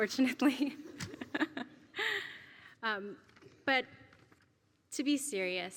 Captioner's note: laugh